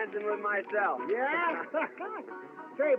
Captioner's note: chuckles